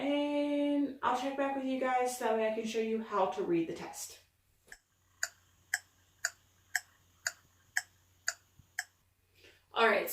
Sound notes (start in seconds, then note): 4.7 clock ticking